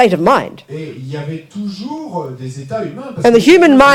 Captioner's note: speaking in French